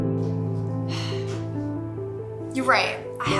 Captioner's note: sighs